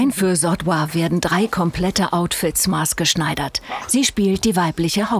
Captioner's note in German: none